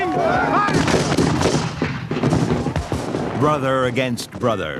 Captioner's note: guns bang